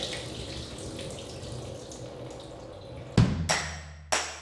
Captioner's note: water pouring; water dripping